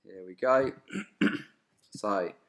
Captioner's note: clearing throat